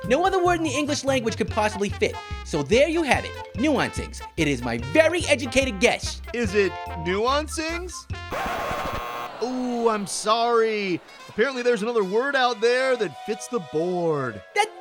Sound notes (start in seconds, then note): 8.3 buzzer; 8.3 record scratches